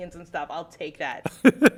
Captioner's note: laugh